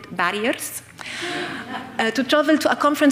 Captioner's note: audience laughing